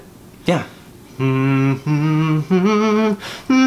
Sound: humming

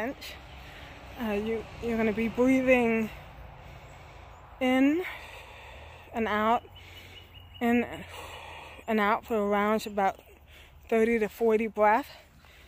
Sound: inhale; exhale

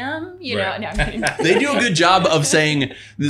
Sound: laughing

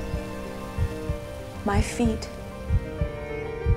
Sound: heart beating

